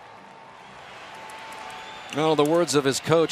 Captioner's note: cheering